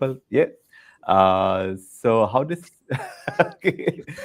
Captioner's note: laughing